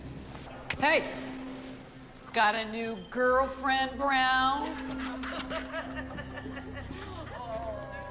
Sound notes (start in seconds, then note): 4.6 laughing; 4.9 lip smacking